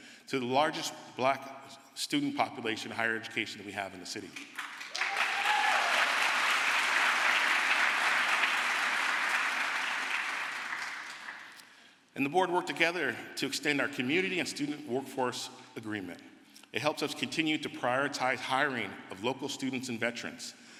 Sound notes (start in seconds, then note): 6.7 crowd applause